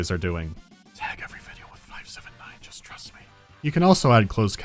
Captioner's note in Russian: шёпотом